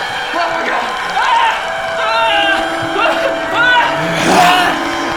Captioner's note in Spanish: Jonathan gritando